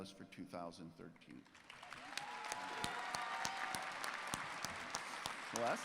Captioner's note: applause